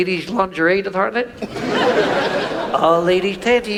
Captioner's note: audience laughs